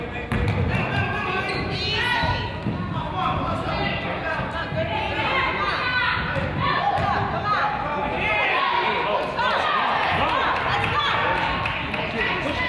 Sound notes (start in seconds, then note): 1.0 crowd chatters; 9.9 crowd applauds